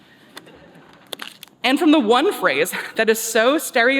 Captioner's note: laughter